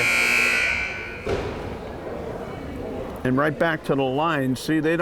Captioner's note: timer buzzes